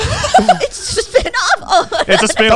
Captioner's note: laughs